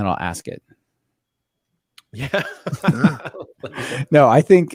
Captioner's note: laughs